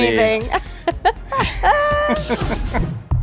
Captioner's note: laughs